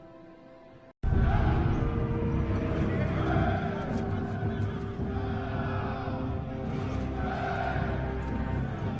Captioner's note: Grounders chanting